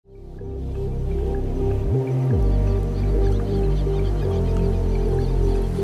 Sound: gentle music; birds chirping

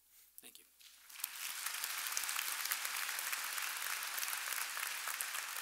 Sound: audience applauding

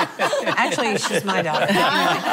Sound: laughing

